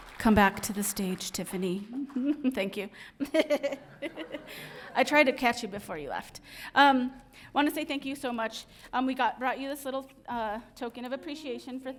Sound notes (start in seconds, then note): 1.9 laughs